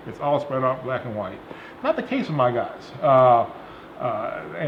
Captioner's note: none